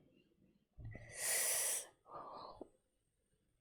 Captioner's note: sharp intake of breath